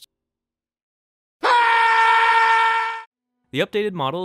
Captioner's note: screams